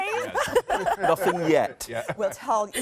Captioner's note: laughing